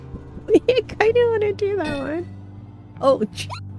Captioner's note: laughs